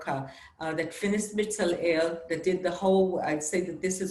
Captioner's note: speaking Hebrew